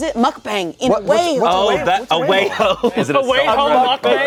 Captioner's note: laughs